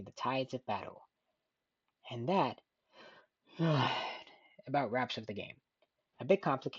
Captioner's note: yawns